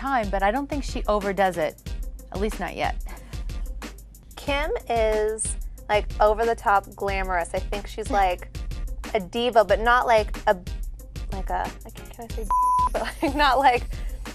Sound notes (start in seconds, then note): 12.4 beep; 12.9 chuckles